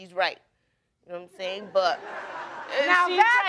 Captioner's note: audience laughing